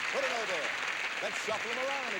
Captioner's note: audience applauding